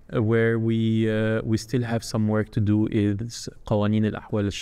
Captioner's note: speaking foreign language